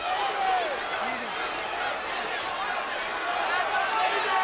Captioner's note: crowd chattering